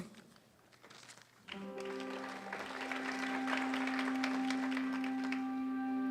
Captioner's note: applause